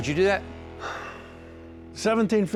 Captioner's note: sighs